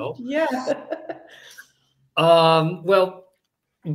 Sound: chuckles

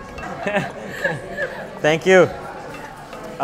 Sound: laughing

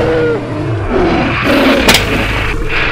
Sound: carcharodontosaurus Sounds; Triceratops and Smack Sounds; triceratops Sounds

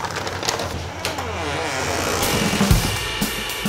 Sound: door creaking; lively music

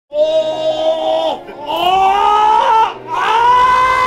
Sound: man groaning

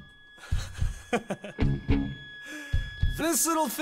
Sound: J.D. laughs

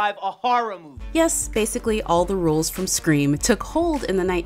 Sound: voiceover

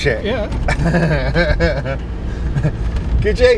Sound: they laugh

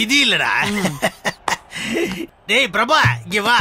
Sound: laughs

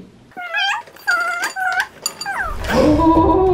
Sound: squeaking

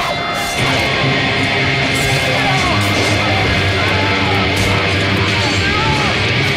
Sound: heavy guitar; people yelling

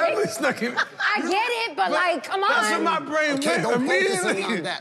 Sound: overlapping chatter

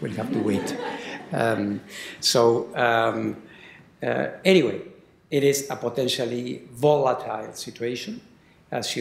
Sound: laughter

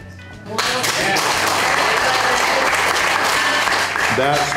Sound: crowd clapping and cheering

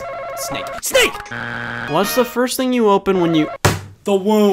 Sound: buzzer beeps

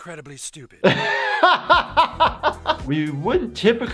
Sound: doctor laughing

